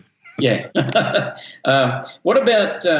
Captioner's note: both chuckle